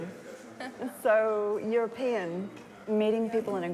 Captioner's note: chuckles